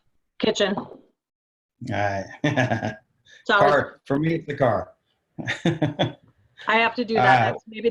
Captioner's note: laughing